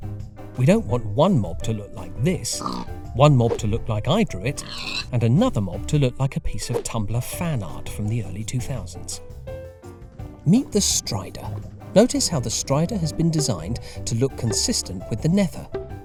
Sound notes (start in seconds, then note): 2.4 pig oinks; 4.5 pig squeals